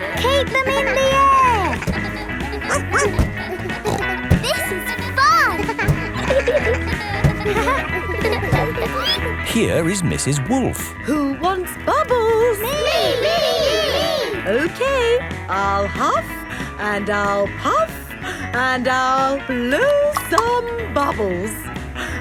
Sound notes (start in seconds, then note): 2.6 snorts; 3.1 barks